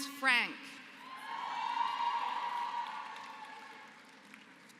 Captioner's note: applause